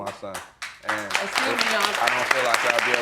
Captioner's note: audience applauds